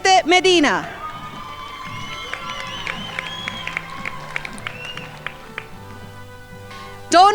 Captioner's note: crowd applauding